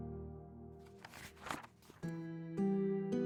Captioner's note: pages turn